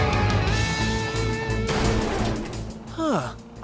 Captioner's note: smashing